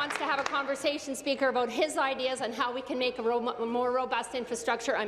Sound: applause

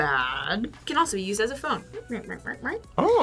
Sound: imitates beeping

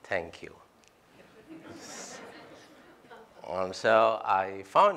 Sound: laughter

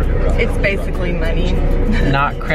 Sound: laughs

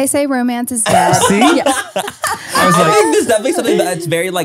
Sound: everyone laughs

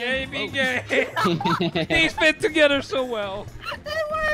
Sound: laughter

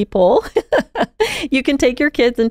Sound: laughing

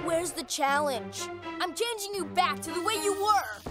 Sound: none

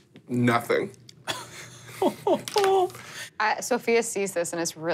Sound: laughs

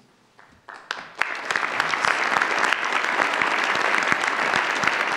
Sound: audience applauds

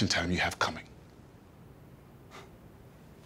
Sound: sighs

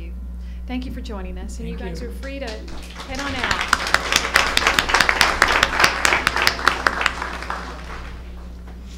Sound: applause

